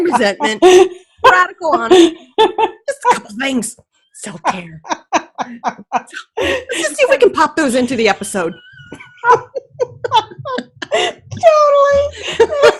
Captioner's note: laughing